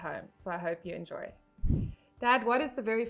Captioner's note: air whooshing